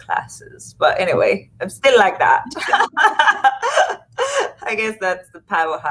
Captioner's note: laughs